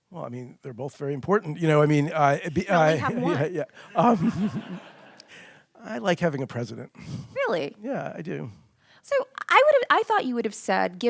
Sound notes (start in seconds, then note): 3.8 audience laughing; 4.2 laughing softly